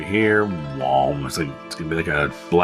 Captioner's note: mouth noise